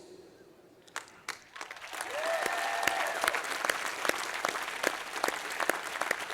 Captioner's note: applause